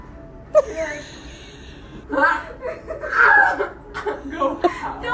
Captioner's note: laughter